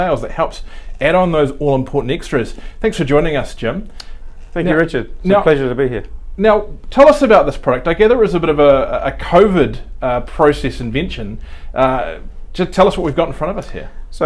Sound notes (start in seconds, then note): none